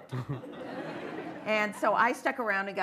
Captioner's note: laughter